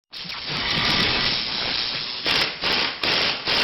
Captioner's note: electric sound